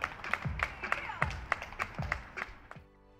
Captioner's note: cheers and applause